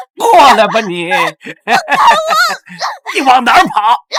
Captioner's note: 哈哈哈哈哈